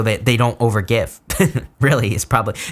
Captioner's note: chuckles